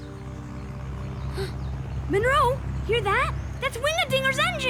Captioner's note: plane rumbles; gasps